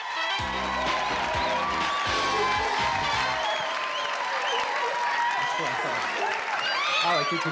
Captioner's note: applause and cheering